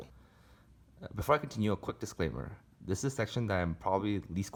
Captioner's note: voiceover